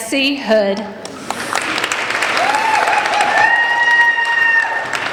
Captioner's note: applauding